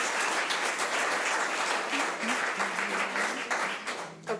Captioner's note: audience applause